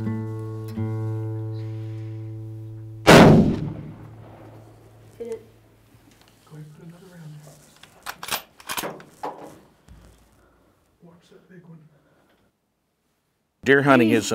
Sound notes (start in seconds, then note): 3.0 gun shot; 9.5 gun being cocked